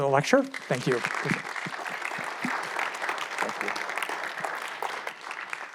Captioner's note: audience applauds